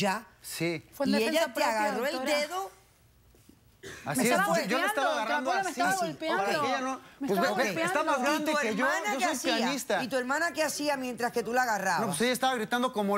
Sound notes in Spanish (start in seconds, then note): 4.1 Hablan al unísono